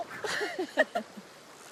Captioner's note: laughter